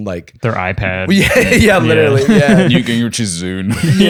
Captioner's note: laughs